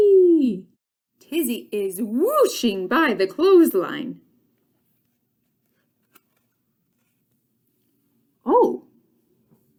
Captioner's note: turning page